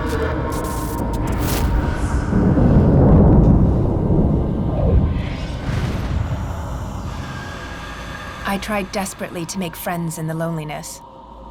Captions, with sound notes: [sparks fizzling] [thunder roaring] I tried desperately to make friends in the loneliness.